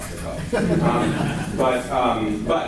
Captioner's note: laughter